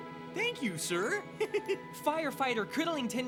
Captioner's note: chuckles